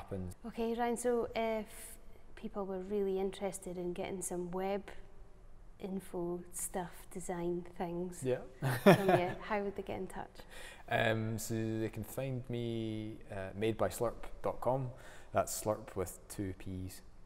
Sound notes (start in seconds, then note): 8.6 laughing